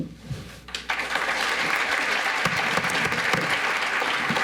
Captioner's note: audience applauds